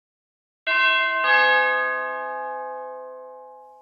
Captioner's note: doorbell